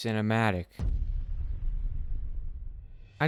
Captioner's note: cinematic hit sound effect